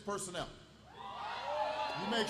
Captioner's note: applause